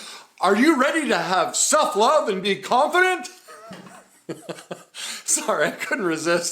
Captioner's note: laughs